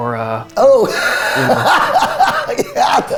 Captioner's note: laughs